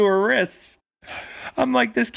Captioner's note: laughing